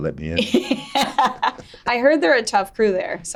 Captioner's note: laughing